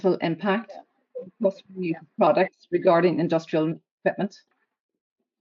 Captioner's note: audio distorts 10.06